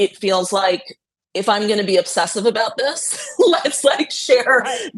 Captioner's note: laughing